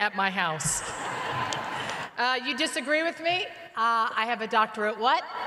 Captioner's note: laughter